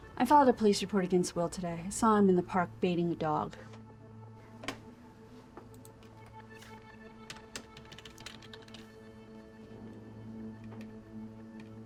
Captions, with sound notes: - I filed a police report against Will today. I saw him in the park baiting a dog. (keys striking) (soft dramatic music)